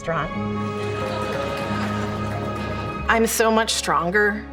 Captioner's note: audience laughs and claps